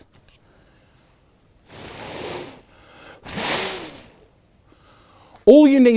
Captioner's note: sounds of blowing can be heard